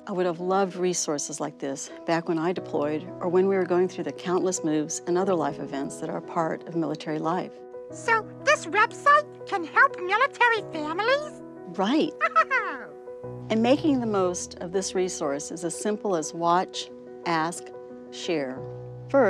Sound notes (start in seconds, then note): 12.0 laughs